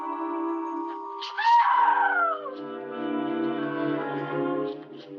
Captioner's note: Lady Haloran screaming